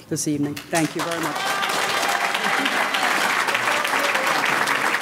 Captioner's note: audience clapping